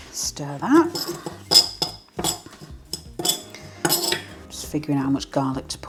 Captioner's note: fork scraping